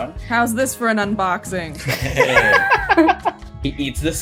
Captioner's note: laughter